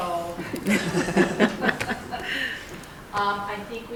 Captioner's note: attendees laughing